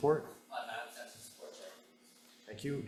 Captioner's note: speaks faintly